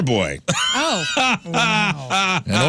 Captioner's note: laughing